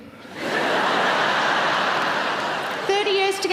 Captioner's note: audience laughing